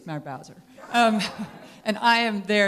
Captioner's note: laughter